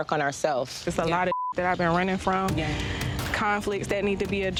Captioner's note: beep